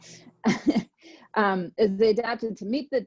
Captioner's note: laughs